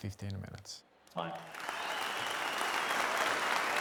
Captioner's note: cheering